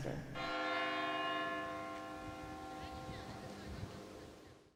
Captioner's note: church bell ringing